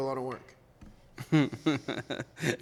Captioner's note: laughing